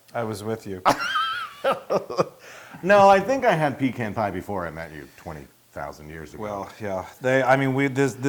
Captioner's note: laugh